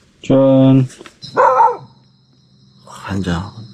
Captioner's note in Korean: 개 짖는 소리